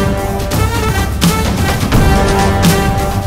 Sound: none

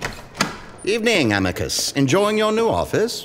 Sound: footsteps receding; door opening

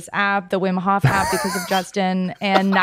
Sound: Justin laughs

